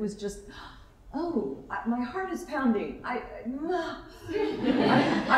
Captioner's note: gasp